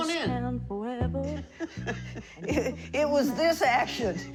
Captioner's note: laughing